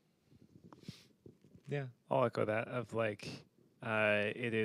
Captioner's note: sniffs